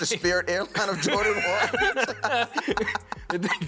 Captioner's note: laughter